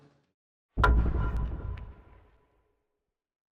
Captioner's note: transition thumps